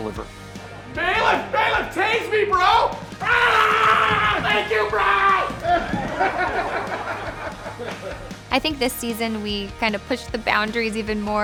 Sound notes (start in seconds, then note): 3.1 screaming; 5.8 laughing